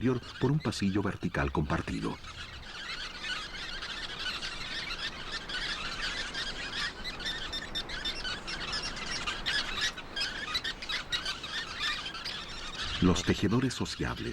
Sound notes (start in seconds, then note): 2.6 pajaros trinando